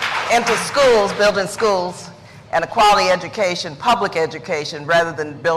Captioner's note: applause